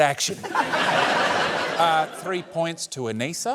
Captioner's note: laughter